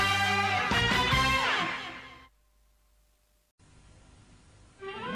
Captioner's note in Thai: ปรบมือ